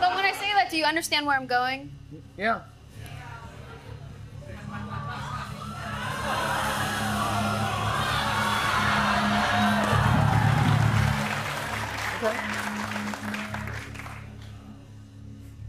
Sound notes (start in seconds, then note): 6.9 audience exclaiming; 10.2 applause